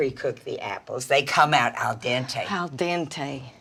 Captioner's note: none